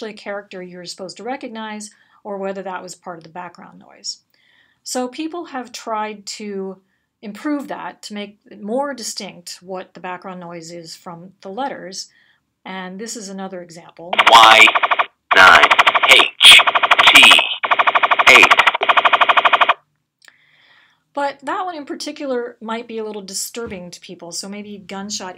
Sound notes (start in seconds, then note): 15.3 audio playing: characters read over rapid-fire gunshots